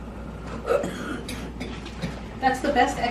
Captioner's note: coughing